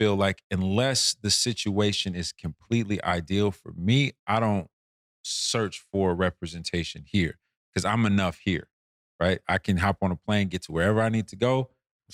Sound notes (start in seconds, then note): none